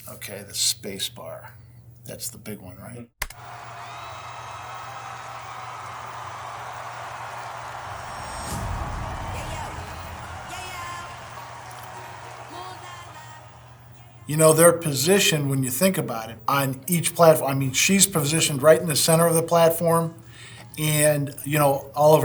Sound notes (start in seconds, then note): 4.0 audience cheering